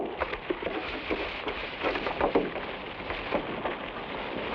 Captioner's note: leaves rustle